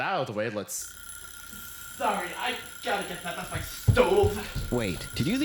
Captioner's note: alarm clock rings